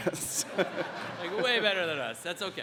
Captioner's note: audience laughs